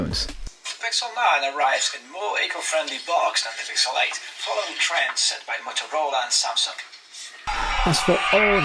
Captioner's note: playing audio from the phone's speakers